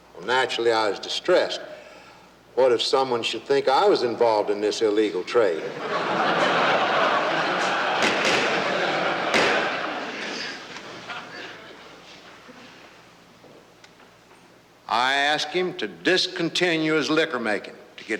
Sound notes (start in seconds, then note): 5.6 laughing; 9.2 banging